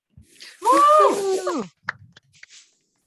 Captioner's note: cheers